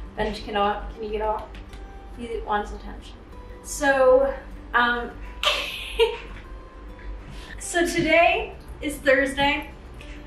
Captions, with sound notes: Benji can you not, can you get off? He wants attention. So (laughing), so today is Thursday.